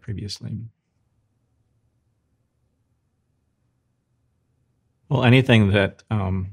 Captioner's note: silence